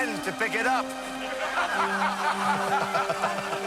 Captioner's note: laughs